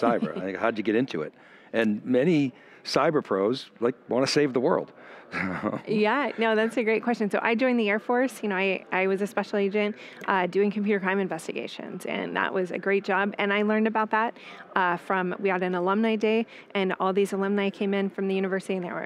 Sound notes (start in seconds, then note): 5.3 laughing